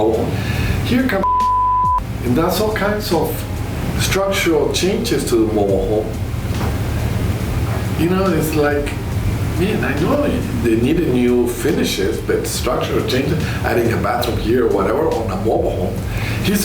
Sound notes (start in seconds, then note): 1.2 beep